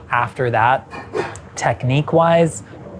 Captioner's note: hand whooshing